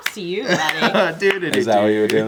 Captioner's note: humming